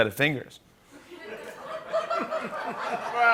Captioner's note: laughter